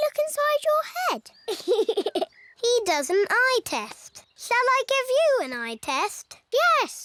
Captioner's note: laughs